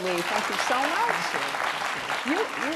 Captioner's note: applause